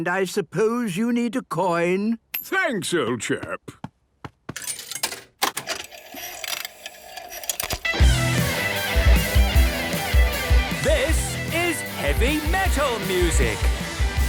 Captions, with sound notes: - And I suppose you need a coin? - Thanks, old chap! (clicks, whirring) - (heavy metal music plays) - (shouting) This is heavy metal music!